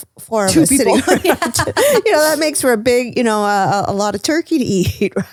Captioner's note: laugh